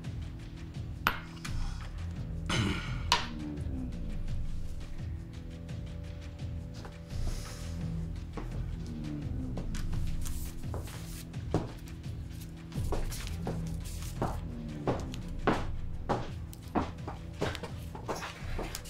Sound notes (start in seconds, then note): 0.1 suspenseful music; 11.4 footsteps thudding